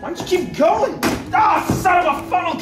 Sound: groans

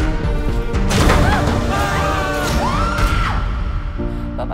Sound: yells; shrieks

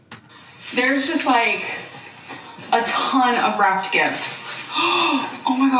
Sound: gasps

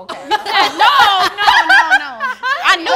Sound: all laugh

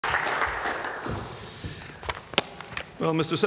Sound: applause

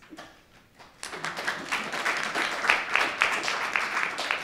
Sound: applause

